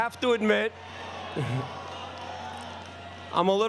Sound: applause

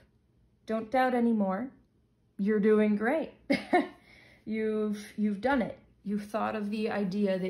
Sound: laughs

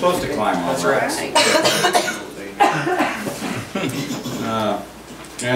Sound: overlapping chattering

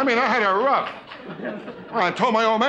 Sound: laughing

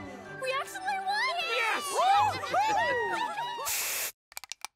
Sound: Ponies cheering

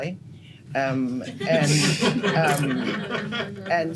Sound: laughter

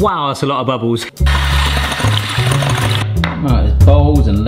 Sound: blender whirring

